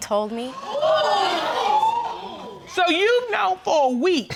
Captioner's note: audience gasping